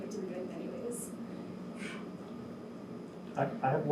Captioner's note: air conditioner hums